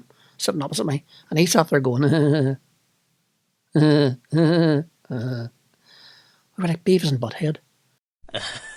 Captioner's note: string of giggles